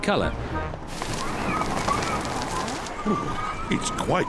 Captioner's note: wind howls